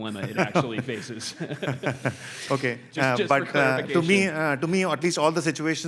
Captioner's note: laugh